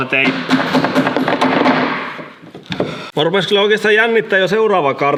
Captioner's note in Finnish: koputusta